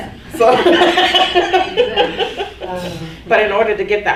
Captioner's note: laughing